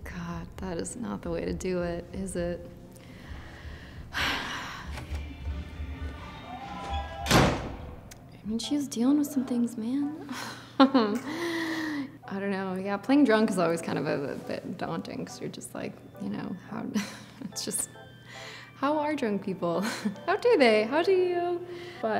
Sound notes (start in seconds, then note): 4.1 Natalia sighs deeply; 4.4 distant party music; 6.6 door slamming; 10.2 laughs